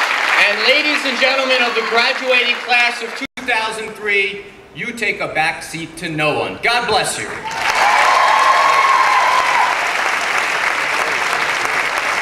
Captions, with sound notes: And ladies and gentleman of the Graduating Class of 2003, you take a back seat to no one. God bless you. (clapping and cheering)